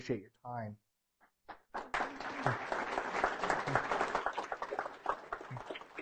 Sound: applause

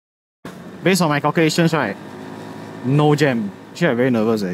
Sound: Traffic

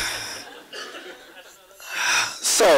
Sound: audience laughs

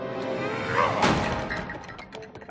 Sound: yelling

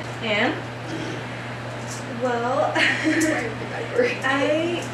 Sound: laughing at their gingerbread cookies

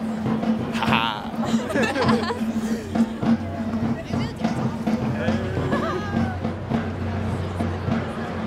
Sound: laugh

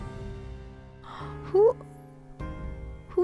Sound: gasps

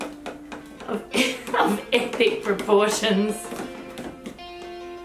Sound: chuckles

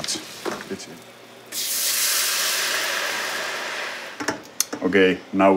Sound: pan sizzling

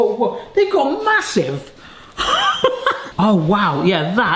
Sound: laughs

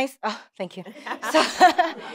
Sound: laughter

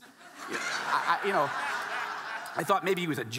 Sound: audience laughing

